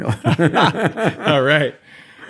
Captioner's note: both laughing